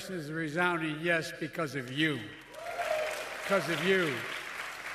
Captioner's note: applause